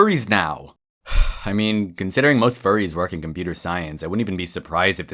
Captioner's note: sigh